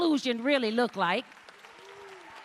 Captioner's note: cheers and applause